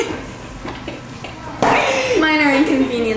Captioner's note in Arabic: تضحك